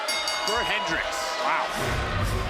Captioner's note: bell rings